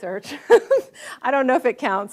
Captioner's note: audience laughs